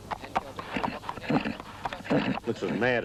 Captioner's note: horse whickering